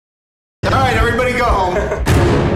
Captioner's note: chuckling